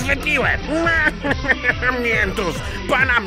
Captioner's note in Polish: śmiech Wala